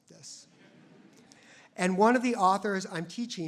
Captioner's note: audience laughs